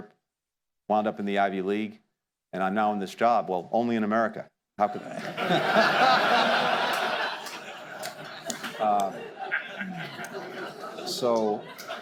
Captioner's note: laughter